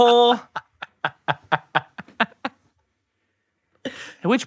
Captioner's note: laughing